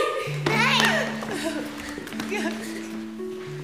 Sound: mother crying

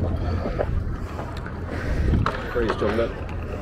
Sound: heavy breathing

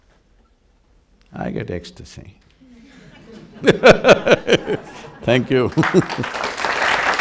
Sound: laughs; applause

